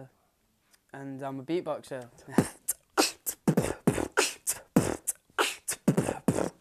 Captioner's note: beatboxing